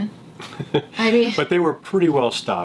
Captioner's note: laughs